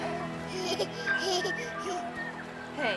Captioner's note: baby giggles